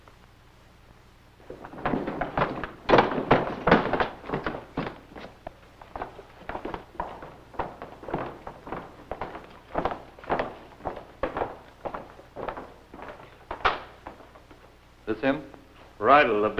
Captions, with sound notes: [footsteps] - That's him? - Reidel, the big one.